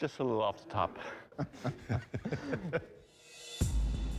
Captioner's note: laughter